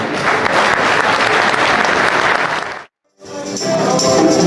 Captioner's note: crowd applauding